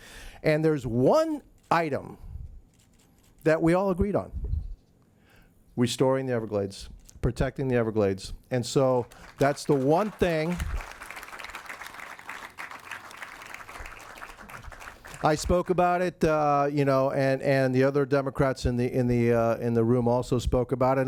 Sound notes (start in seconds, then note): 10.8 audience claps